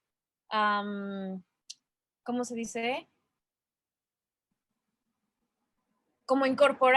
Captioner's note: pause